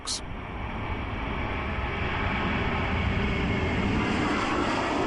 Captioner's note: plane engine roars